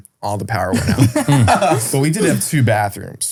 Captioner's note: group laughing